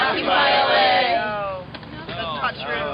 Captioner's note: voiceover